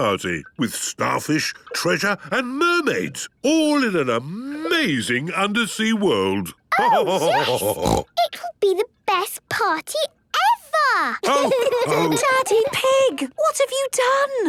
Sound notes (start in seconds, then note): 6.4 laughter and snorting; 11.2 laughter